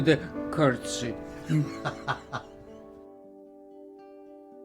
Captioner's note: laughing